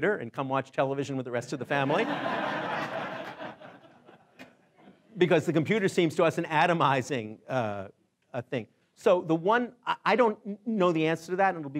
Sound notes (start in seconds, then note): 1.9 laughing